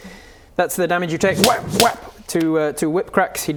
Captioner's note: whap whap